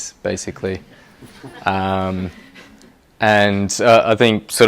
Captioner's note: laughter